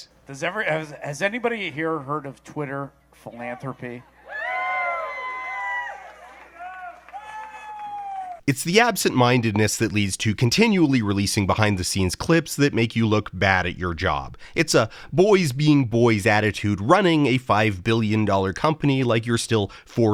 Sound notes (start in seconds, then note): 3.9 'woo' from crowd; 6.0 clapping